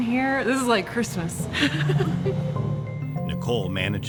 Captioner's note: laughs